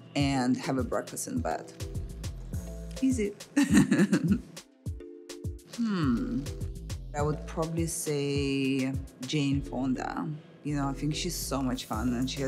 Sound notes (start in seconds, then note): 3.6 laughs